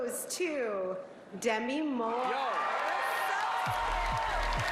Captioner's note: applause